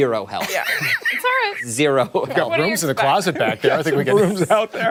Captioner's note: laughter